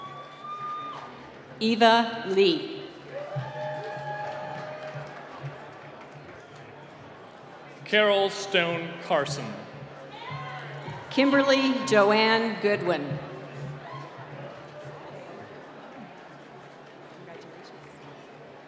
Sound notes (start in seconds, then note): 0.0 cheering; 3.0 cheering